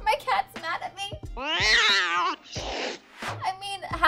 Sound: cat growls

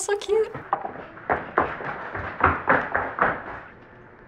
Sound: loud footsteps

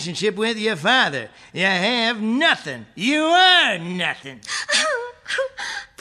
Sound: Priscilla crying

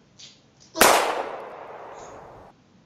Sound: gun fire

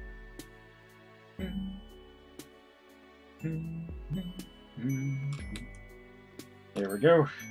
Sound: humming along

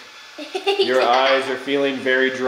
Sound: laughs

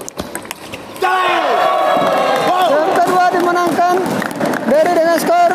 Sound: applause

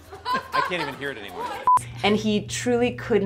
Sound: people laugh; beep

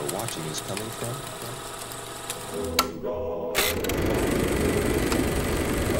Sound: projector clicking

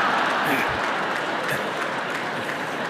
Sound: laughter

